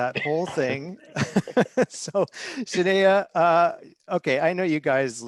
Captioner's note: chuckles